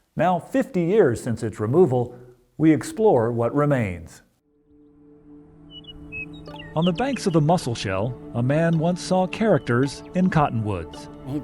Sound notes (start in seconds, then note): 4.4 calm music; 5.6 bird chirping